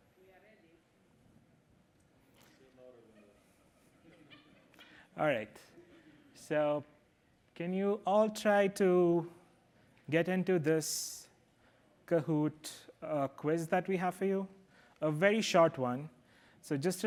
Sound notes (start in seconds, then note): 2.9 chatter